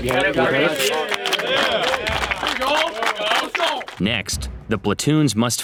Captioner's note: cadets applaud